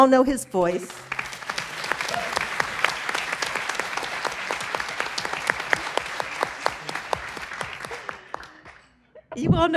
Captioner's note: applause